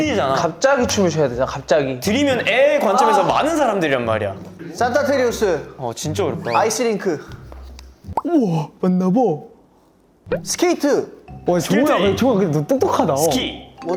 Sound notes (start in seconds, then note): 8.1 getting closer to the answer, people start whispering